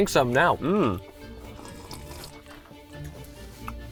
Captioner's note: slurping; chewing